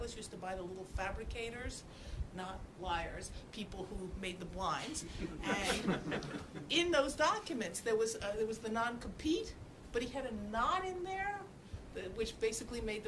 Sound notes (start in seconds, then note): 5.0 laughter